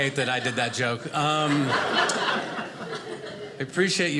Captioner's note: audience laughing